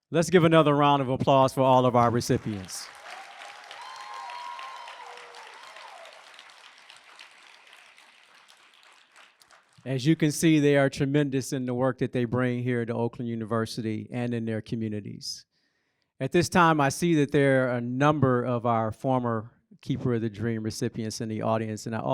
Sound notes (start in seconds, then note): 2.0 applause